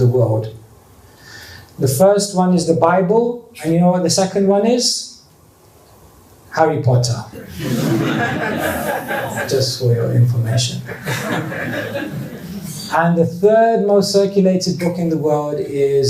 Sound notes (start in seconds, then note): 7.6 laughter